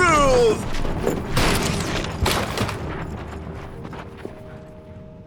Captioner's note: crash